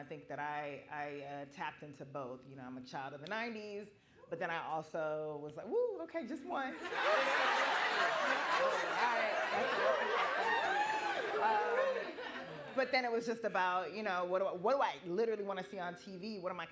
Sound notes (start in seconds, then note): 6.8 laughing